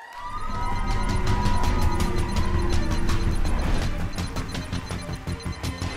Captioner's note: audience applauding